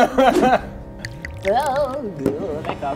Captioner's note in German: Ekelgeräusche